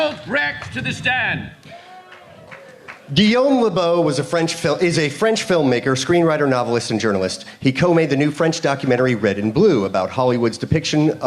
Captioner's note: applause